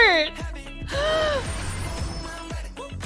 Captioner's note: gasps